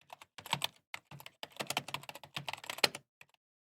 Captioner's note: keyboard clicks